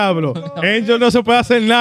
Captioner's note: speaking In Foreign Language